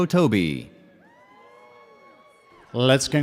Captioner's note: audience cheers